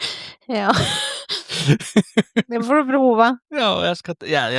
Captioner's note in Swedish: skratt